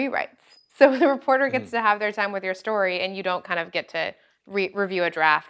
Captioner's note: laugh